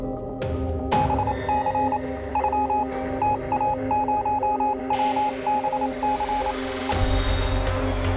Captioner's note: morse code beeping; eerie music